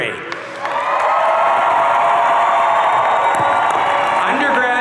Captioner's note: audience cheering